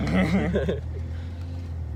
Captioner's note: laugh